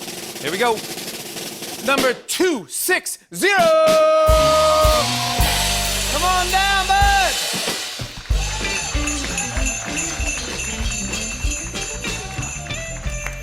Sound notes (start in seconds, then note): 4.4 cheers and applause